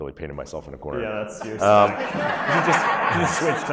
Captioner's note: audience laughs